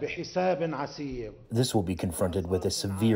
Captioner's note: through translator